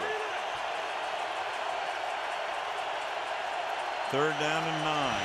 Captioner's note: crowd cheering